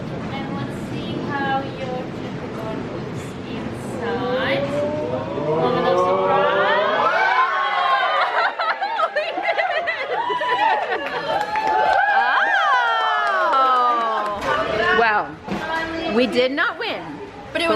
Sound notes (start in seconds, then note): 7.3 crowd exclaiming; 7.9 laughing; 12.3 crowd cheering